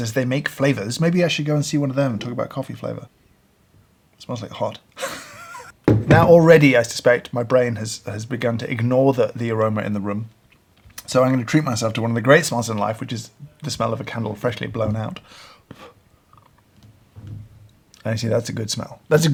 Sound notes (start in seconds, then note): 5.0 laughing